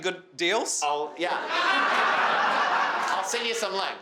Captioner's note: crowd laughing